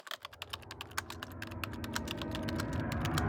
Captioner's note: typing